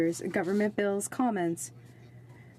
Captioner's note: speaking French